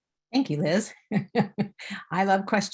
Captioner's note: chuckling